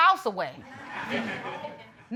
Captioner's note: audience laughing